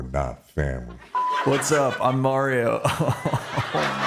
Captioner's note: laughter; laughs